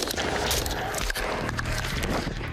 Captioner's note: gunshots